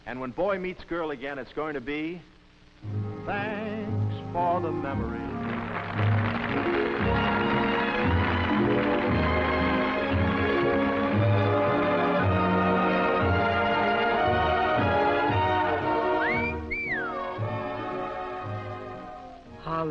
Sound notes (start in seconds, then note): 5.0 applause; 16.0 whistles